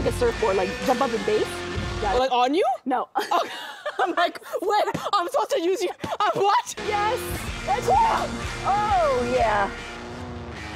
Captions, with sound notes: Jump up like a surfboard. Like, jump at the base. - On you? - No. - I'm like, "I'm supposed to use you--what?" - Yes. Good job. - [cries] - Oh, yeah.